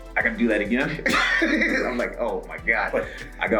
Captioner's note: laugh